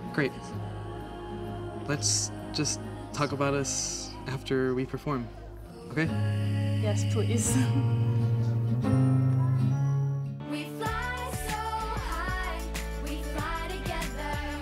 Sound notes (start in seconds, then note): 7.4 chuckles; 10.4 upbeat music